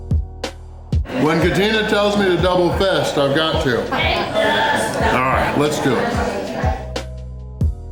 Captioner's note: laughter